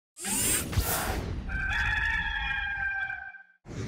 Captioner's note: rooster crows